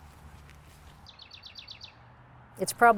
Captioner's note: birds chirping